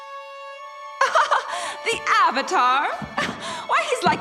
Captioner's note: laughs